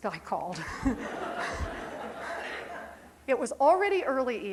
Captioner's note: crowd laughing